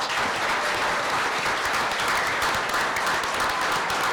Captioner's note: applause